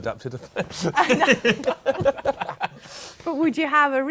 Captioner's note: laughter